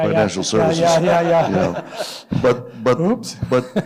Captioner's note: laughter